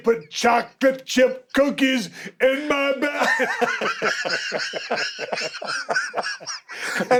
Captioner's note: laugh